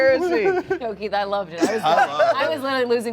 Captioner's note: laughing